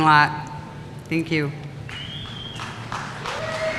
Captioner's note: applause